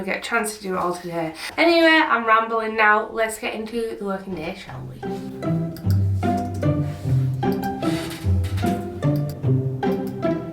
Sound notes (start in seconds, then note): 5.7 keyboard tapping; 5.7 mouse clicking; 9.0 mouse clicking; 10.3 bouncy music